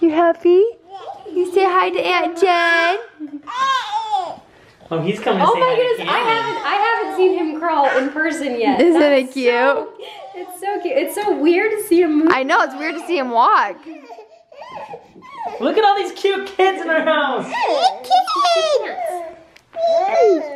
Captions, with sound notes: You happy? You say hi to aunt Jen? - [Voiceover] Oh, he's coming to say hi to Cannon. - [Voiceover] I haven't seen him crawl in person yet. - [Voiceover] Isn't it cute? - [Voiceover] It's so cute, it's so weird to see him move, though. - [Voiceover] I know, it's weird to see him walk. - [Voiceover] Look at all these cute kids in my house!